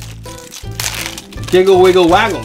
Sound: plastic wrap crinkling

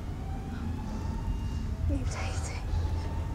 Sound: none

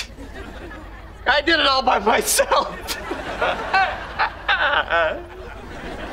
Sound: crying

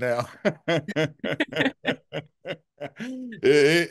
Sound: laughter

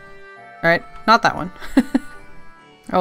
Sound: laughs

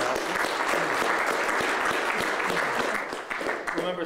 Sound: applause

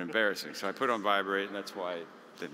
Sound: mutters

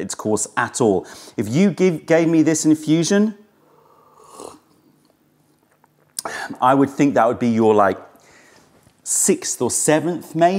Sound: sips tea

